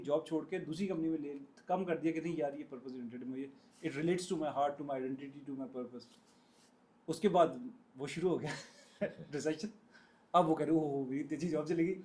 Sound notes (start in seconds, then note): 8.4 हंसी